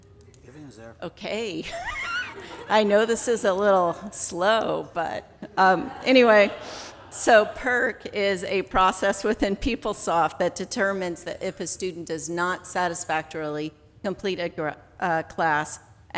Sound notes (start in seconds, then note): 1.6 laughs